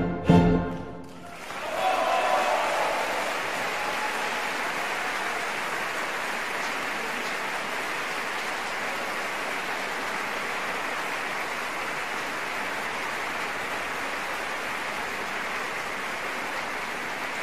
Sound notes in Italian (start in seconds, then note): 1.2 applausissimo